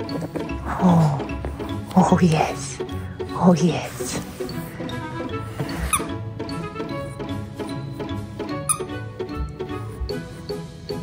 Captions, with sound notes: Oh, oh yes, oh yes. [toy squeaks]